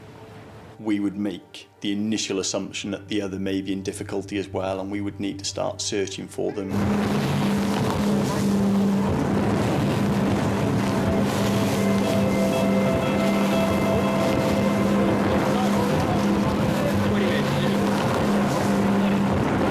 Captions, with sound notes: we would make the initial assumption that the other may be in difficulty as well and we would need to start searching for them. (engine races) (suspenseful music continues)